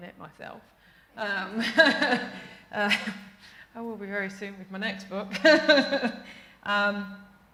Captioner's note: laughter